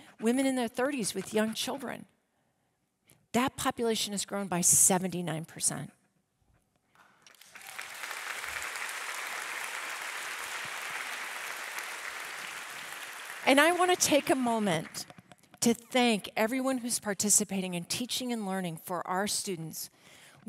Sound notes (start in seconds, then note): 7.2 audience applauding